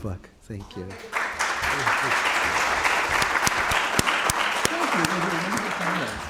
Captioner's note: applause